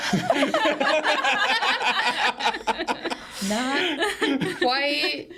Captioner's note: group laughing